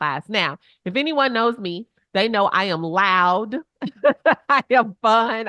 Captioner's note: chuckles